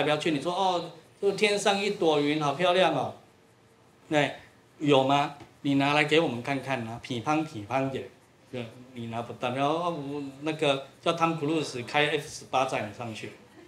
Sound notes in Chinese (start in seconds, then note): 7.6 台語：見識 見識